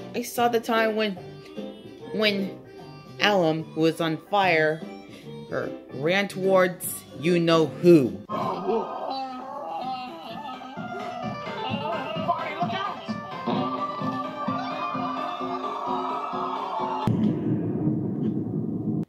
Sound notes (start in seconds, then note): 7.9 Album screams as she caught on fire; 10.4 C.Bun and Mitten gasp; 13.9 Everyone but Brick screams; 17.0 boom